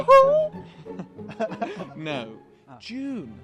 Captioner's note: laughing